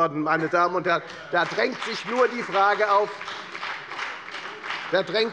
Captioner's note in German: Beifall bei der FDP